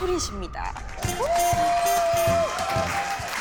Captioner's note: A round of applause